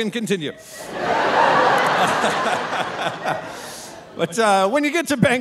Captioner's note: audience laughing; laughing